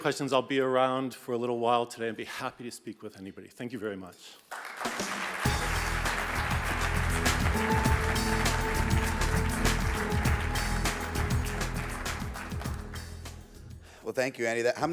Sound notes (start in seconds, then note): 4.5 audience applauds; 5.4 bright music